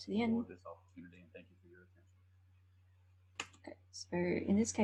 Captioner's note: speaking faintly off mic